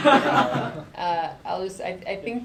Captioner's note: laughter